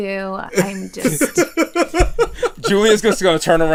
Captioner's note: laughter